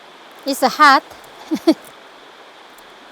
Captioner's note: laughs